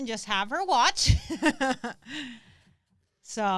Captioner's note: laughs